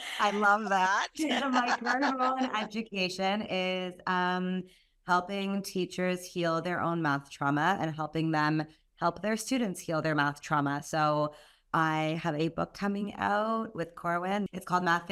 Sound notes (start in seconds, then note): 1.0 laugh